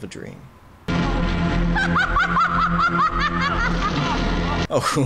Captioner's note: maniacal laughter